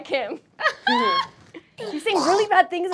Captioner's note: laughing; snarling